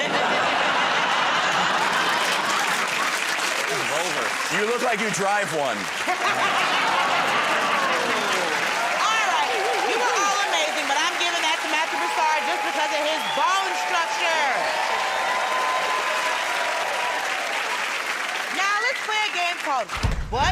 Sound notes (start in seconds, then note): 0.0 laughter; 5.9 laughter; 16.0 cheers and applause